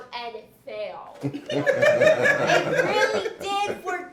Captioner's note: laughing